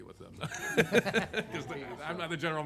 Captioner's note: laughs